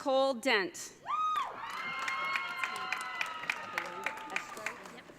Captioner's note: audience cheering